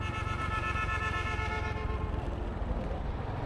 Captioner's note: car honking sound